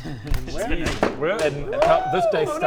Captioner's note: expensive crash